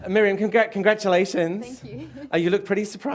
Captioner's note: laughter